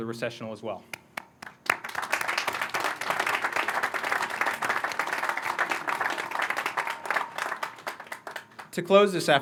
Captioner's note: applause